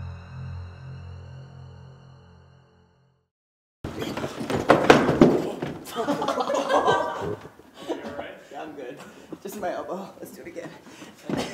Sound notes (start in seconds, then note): 3.8 footsteps clattering; 5.8 everyone laughing